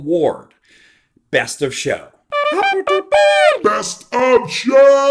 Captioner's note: mimicking horn fanfare